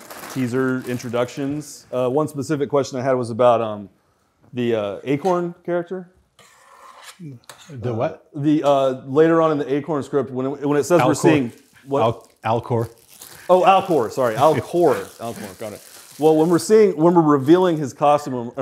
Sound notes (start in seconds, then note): none